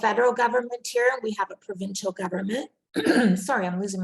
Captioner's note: clearing throat